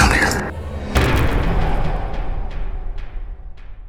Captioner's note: impact